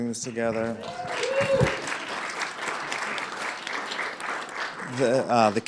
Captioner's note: applause